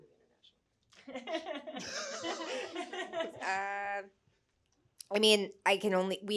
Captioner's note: laughing